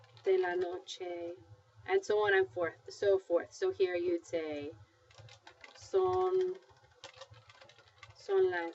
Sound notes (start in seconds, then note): 0.0 speaking spanish; 4.0 speaking spanish